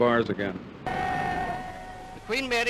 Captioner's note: cheering